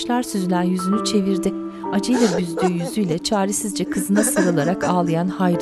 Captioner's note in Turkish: Ağlama sesi